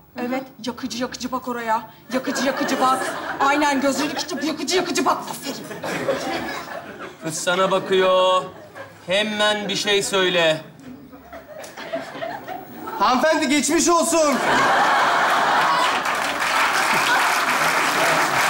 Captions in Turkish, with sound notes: Evet. Yakıcı yakıcı bak oraya. Yakıcı yakıcı bak. Aynen. Gözlerini içinde böyle yakıcı yakıcı bak. Aferin. -Kız sana bakıyor. Hemen bir şey söyle. -Hanımefendi geçmiş olsun. (Alkış sesleri)